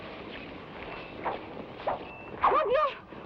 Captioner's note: lasso whooshes; woman speaking in Tagalog